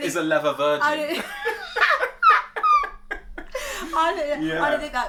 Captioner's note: laughter